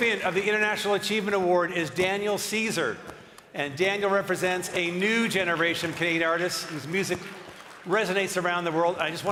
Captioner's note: applause